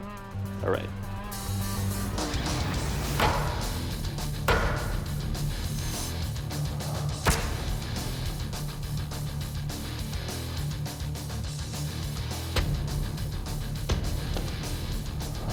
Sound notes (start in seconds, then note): 2.3 metal clanging against butcher block